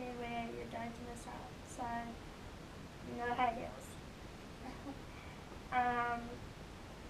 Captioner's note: laugh